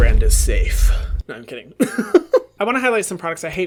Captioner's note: laughs